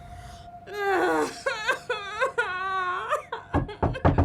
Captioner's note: crying loudly